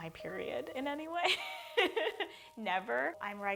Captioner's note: laughs